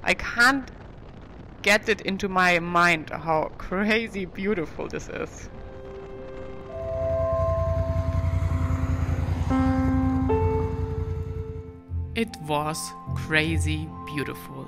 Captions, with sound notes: I can't get it into my mind how crazy beautiful this is. (motor roaring) (tranquil music) It was crazy beautiful.